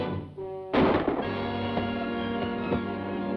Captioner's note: gunshot; suspenseful music